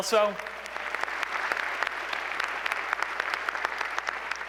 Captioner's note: applause